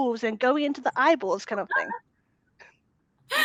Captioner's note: laughing